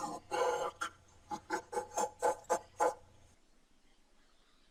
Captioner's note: evil laugh